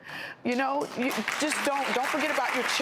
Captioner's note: audience applauds